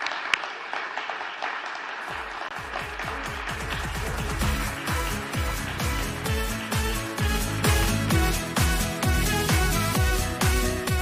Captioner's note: applause